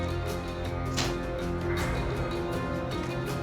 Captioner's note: spits food